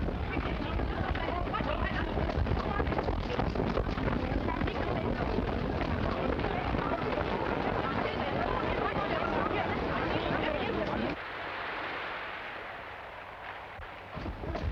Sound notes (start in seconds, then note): 5.6 people murmuring